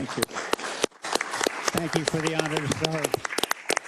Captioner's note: applause